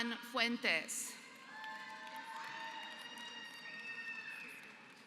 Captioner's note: applause